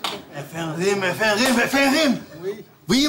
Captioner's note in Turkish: Fransızca karşılık verir